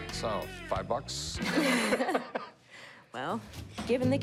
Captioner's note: laughter